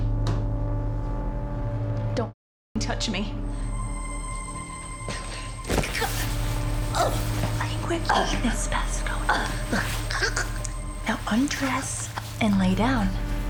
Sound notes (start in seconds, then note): 0.2 tense music; 3.5 tense music; 5.9 Miriam gasping; 7.6 Ms. Hemlock mumbling